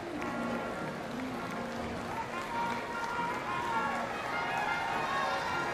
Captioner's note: audience applauding